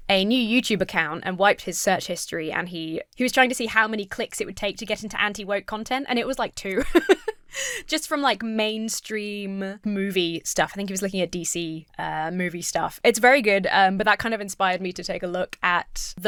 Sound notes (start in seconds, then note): 6.7 chuckles